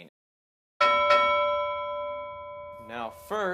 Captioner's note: ding ding